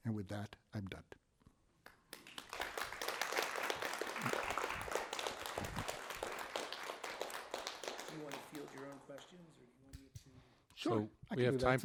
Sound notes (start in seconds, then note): 2.1 crowd applauds